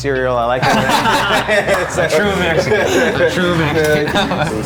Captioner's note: laughing loudly